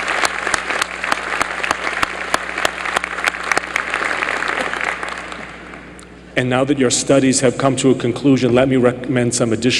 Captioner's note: applause